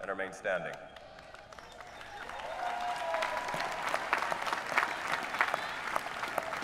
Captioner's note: applause